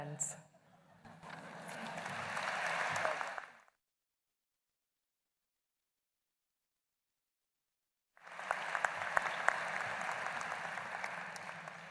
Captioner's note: applause